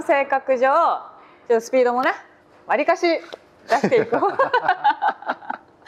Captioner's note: laughs